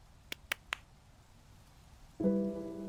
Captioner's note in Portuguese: palmas